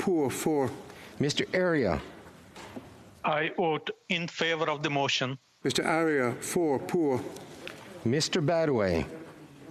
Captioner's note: speaking FRENCH